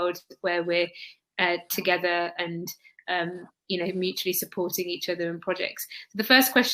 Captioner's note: erm